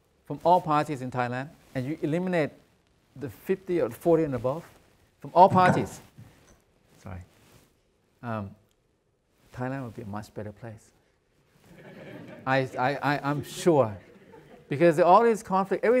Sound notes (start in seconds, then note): 5.4 microphone thunks; 11.6 audience chuckles